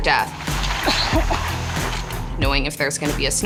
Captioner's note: man coughing